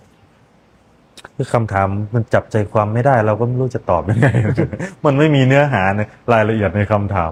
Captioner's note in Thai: เสียงหัวเราะ